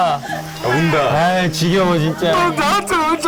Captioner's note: sobbing